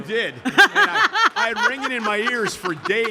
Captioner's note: Steph laughing